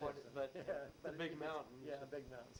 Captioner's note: chuckles